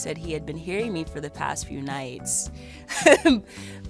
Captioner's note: laughs